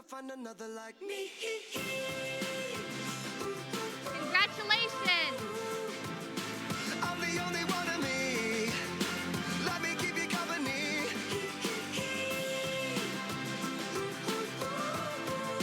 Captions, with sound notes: Congratulations. (Applause)